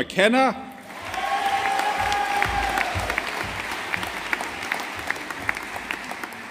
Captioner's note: audience applauding